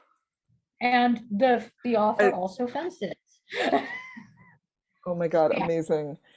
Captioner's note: laughing